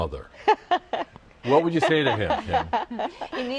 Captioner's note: laughter